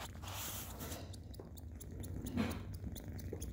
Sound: quiet purring

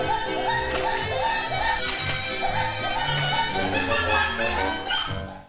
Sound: cackling off in the distance

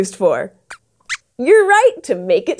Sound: squeaks squeaks

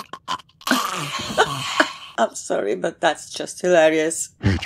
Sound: laughs

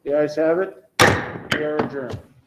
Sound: gavel taps

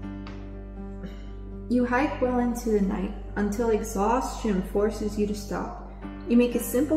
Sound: clears throat

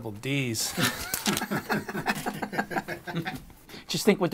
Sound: laughing

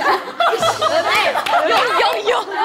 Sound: laughing

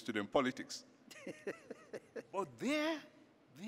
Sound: laughs

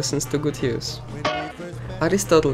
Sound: bonk

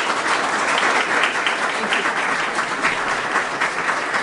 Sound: applause

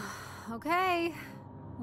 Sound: sighs

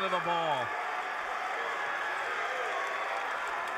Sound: cheering

